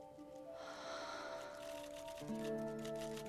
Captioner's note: sighs